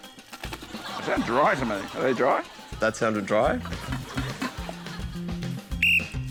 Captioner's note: cheering, applause